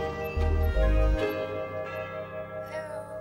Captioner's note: doorbell rings